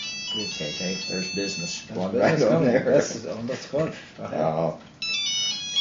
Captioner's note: cell phone rings again; laughter